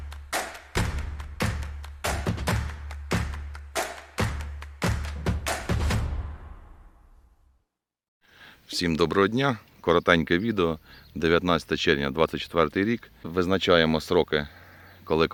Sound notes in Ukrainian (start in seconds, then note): 2.6 оплески